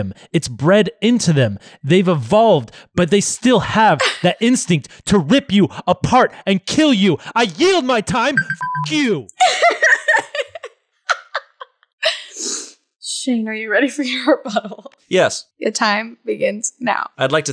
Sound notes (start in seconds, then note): 8.3 beep; 9.4 laughs